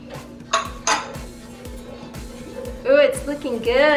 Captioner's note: glass clinking